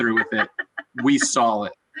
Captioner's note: laughing loudly